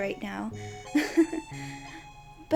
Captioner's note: giggles